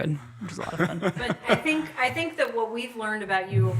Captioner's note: laughs